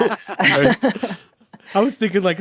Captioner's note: group laughing